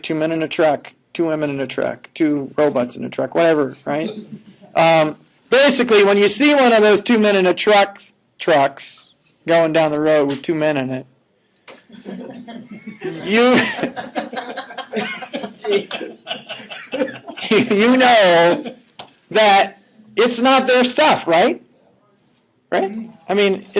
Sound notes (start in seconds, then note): 11.9 laughing